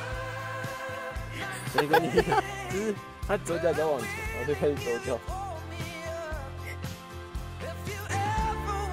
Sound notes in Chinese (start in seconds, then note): 1.6 大笑